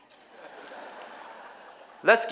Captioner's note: audience laughing